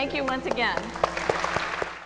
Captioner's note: applause